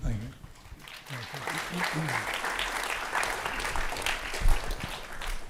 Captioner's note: audience applauding